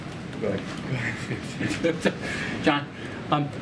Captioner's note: laughs